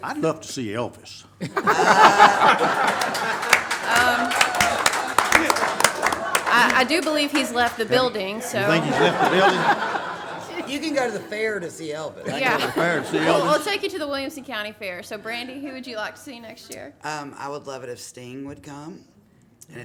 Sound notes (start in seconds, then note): 1.7 everyone laughs; 3.5 audience applauds; 9.8 everyone laughs